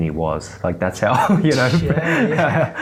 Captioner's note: laughs